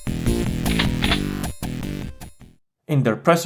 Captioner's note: shotgun load